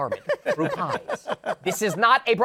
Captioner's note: laughter